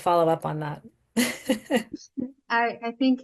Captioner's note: laughs